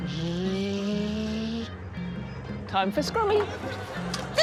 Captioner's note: imitates mechanical whirring